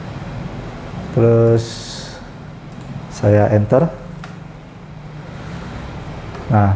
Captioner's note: clicking sound